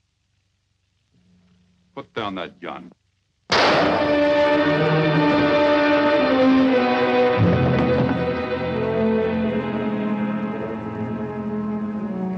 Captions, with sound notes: Put down that gun. (gun fires) (dramatic music)